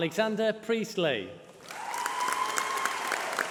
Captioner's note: applause